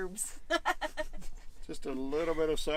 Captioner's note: laughter